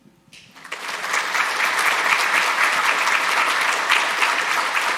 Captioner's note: audience applauding